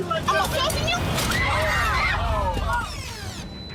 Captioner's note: woman screams